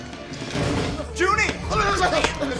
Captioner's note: demonic rodent noises